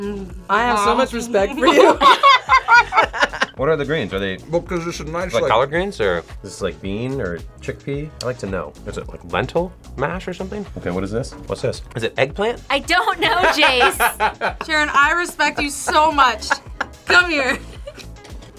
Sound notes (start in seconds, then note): 1.6 both laugh; 13.4 laughs